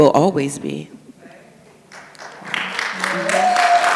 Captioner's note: audience claps